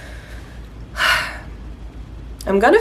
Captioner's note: sigh